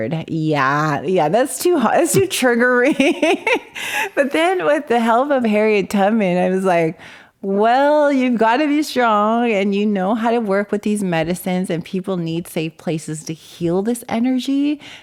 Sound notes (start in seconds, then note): 2.8 laughs